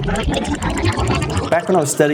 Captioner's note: rewinding